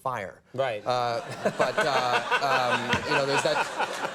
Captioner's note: audience laughs